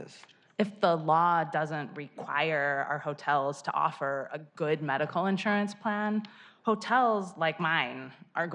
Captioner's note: spanish